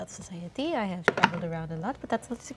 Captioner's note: dice clatter